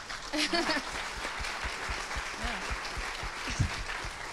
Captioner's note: crowd applauds